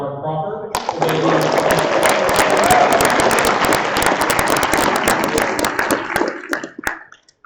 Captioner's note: applause